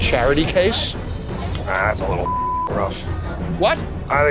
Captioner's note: beep